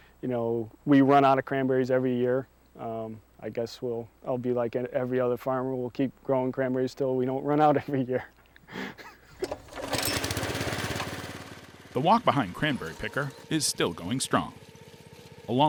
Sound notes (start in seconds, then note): 8.6 laughs; 9.4 motor purring